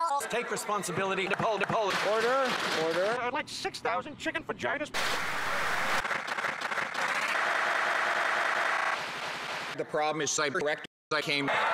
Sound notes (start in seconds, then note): 5.0 applause for Mr. Speaker's order; 6.0 clapping intensifies